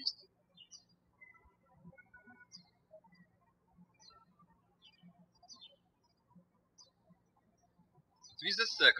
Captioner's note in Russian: птички щебечут